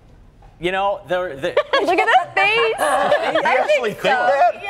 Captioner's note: laughter